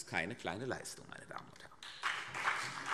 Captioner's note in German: Beifall CDU und BÜNDNIS 90/DIE GRÜNEN